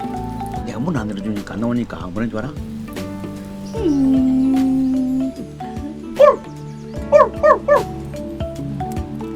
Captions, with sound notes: Do you know what Laki did because I didn’t open the door? [Mimicking Laki whining]